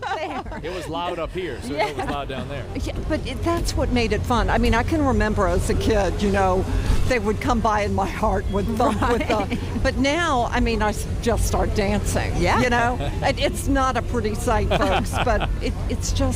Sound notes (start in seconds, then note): 5.3 laughter